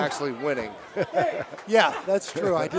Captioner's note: laughs